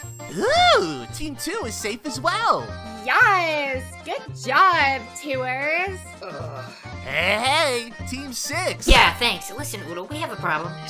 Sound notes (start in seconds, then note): 6.2 Hailstone groans